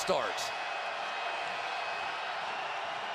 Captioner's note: crowd cheering